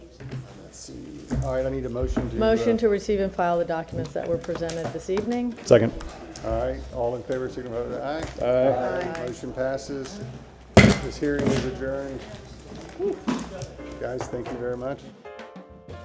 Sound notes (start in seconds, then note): 14.2 sounding gavel